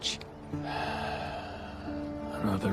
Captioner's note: sighs